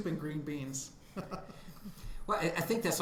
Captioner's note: laughing